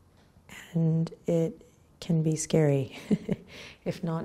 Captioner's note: chuckles